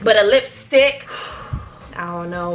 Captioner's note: exhales